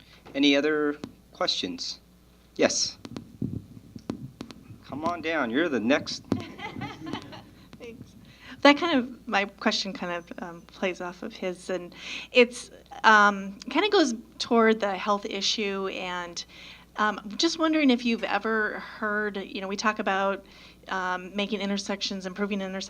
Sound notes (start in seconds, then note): 6.2 laughs